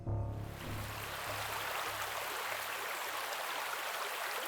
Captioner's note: river flows